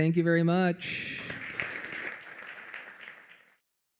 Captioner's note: applause